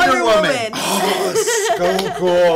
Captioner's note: gasps